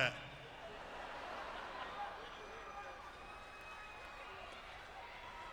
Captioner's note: audience laughing